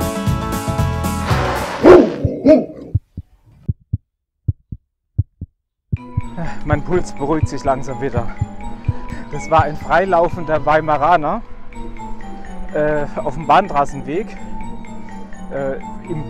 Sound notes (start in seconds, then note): 1.7 aggressive dog barking; 4.4 heartbeats